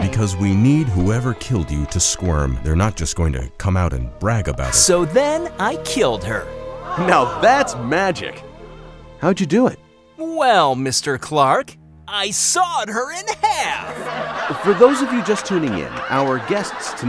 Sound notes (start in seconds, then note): 6.8 audience gasps; 13.2 audience laughing